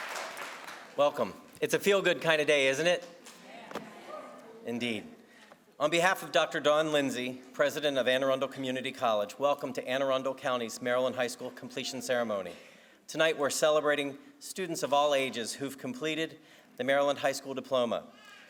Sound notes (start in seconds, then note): 2.7 crowd